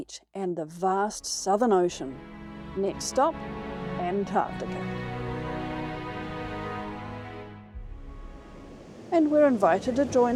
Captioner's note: cinematic music; waves crashing